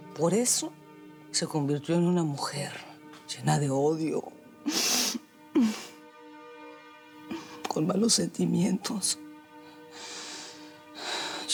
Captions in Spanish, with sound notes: POR ESO SE CONVIRTIÓ EN UNA MUJER LLENA DE ODIO... [SOLLOZA] ...CON MALOS SENTMIENTOS.